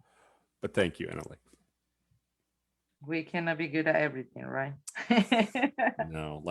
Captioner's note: laughs